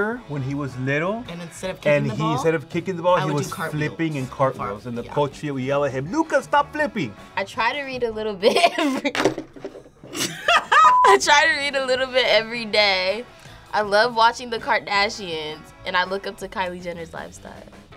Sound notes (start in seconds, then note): 8.4 laughs